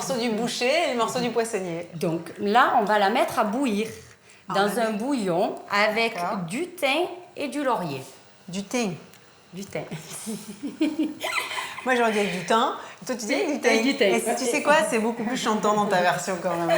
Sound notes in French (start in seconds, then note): 10.2 rires